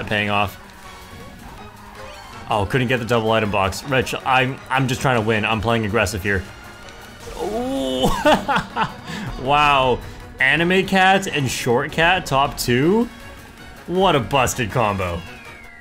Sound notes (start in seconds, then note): 7.6 laughs